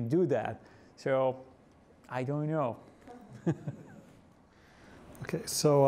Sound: laughs

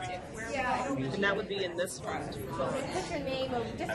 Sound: voiceover

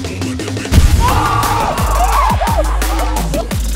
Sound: cheers

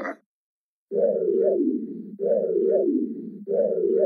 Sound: whoosing

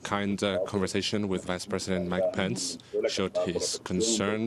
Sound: speaking spanish

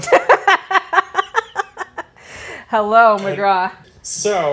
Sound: laughs

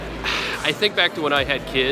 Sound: sighs

